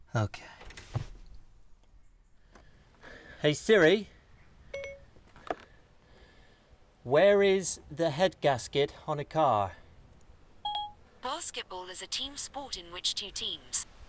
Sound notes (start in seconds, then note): 4.7 SIRI beeps obediently; 10.6 SIRI beeps confidently